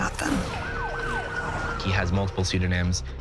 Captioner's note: police sirens wail